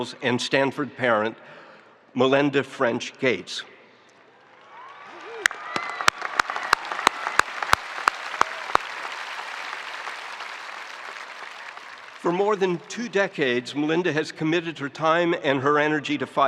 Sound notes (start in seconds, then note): 4.8 spectators cheering; 6.0 spectators applauding